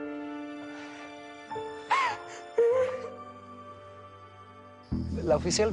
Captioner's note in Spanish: Llanto de Mónica